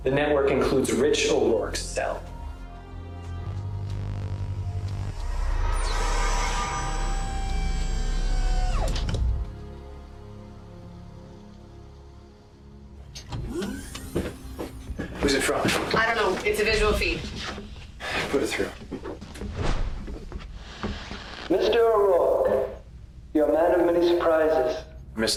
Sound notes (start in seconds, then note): 3.0 tense instrumental music; 5.5 electronic whirring